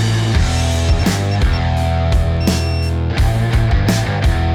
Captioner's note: buttons Beeping